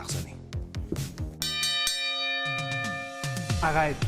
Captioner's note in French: tintement